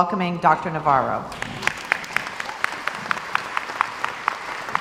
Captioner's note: crowd applauds